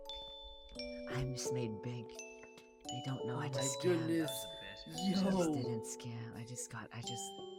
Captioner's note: whispers